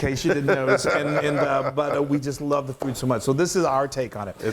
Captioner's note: laugh